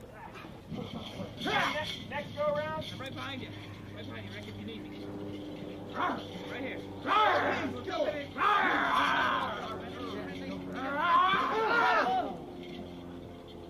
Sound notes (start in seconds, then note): 5.9 barking; 7.0 growling